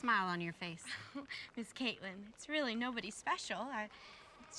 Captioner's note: chuckles